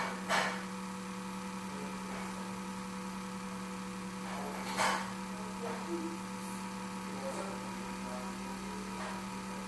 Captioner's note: fan Noise